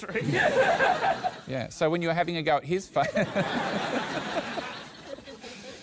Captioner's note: laughs